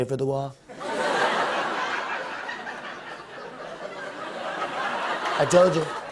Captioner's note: laughter